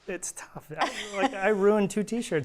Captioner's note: chuckles